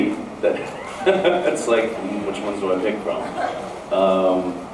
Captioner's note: laughs